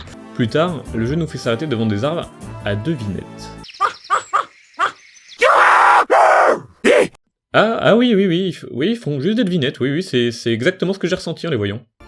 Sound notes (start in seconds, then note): 3.8 Plop barking at trees; 5.4 otherwordly screams